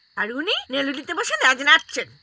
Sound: none

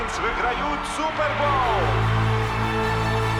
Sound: crowd cheering

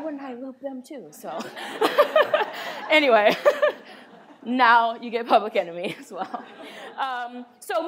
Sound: laughs

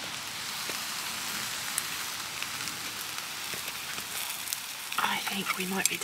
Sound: sizzle

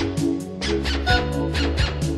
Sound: honk

